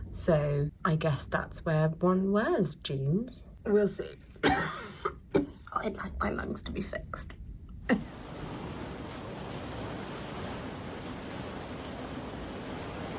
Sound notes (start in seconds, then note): 4.4 coughs; 7.6 rain pattering; 8.1 coughs